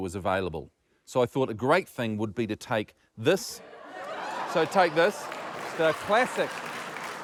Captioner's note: applause